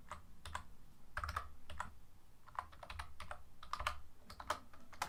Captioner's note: keyboard clacking